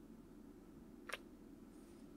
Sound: kiss

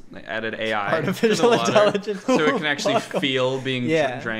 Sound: laughs

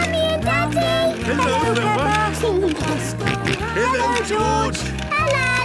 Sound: George giggling and snorting

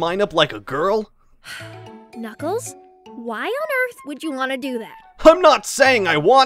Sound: sighs

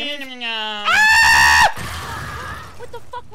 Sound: screaming; explosion booming

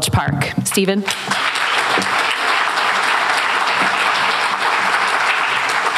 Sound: applause

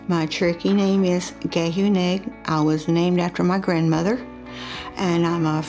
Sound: speaks Cherokee

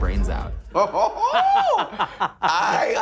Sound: laughing

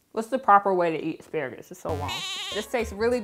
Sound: sheep bleats

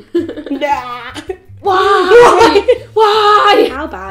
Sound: making silly noises

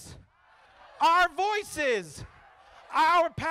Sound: crowd

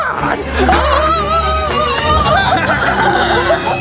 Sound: screams; creepy cackling

